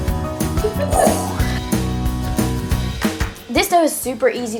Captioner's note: laughing